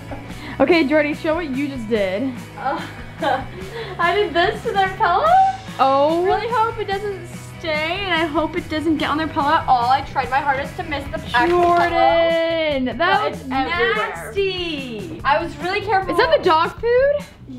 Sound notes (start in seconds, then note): 2.6 chuckles